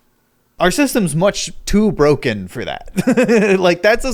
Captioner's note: giggles